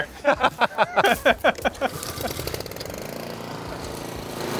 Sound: all laugh; mower engine revving

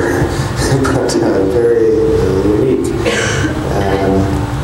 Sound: laughs

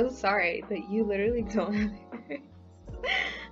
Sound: laughing; laughs

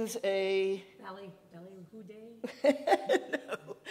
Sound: person speaking in Yiddish; laughing

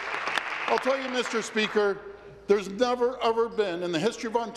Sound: applause

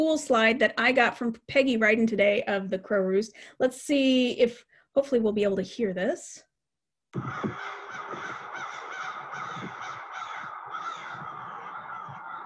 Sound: caws

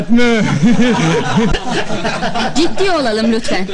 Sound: laughing

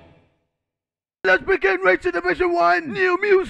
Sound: KSI, shouting

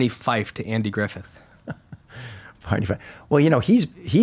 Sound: chuckling

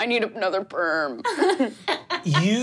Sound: laughs

